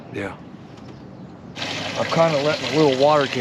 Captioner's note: water running